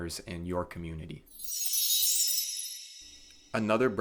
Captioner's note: chime sounds